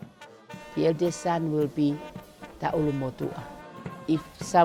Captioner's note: speaks in Tongan